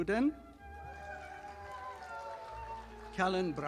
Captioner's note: audience applauding